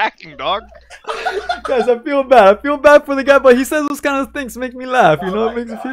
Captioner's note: laughs